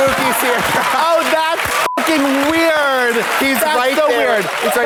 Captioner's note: beep